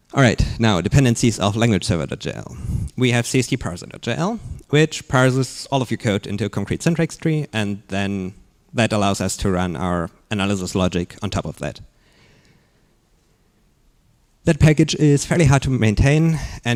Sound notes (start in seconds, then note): none